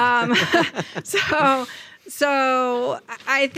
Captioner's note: both chuckle